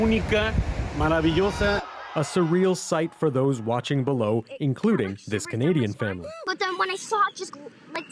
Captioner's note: speaking alternate language